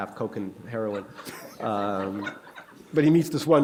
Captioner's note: laughter